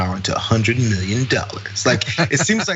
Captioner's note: laugh